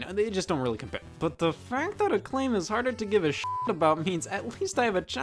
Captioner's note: beeps